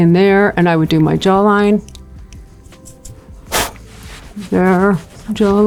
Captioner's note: blows loudly